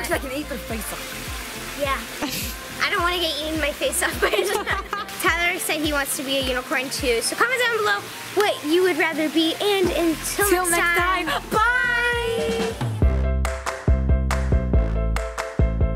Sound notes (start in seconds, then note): 4.1 laughs; 12.9 upbeat music